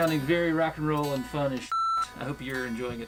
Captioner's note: beep